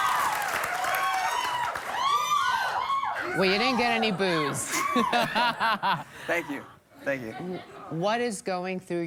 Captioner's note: cheers and applause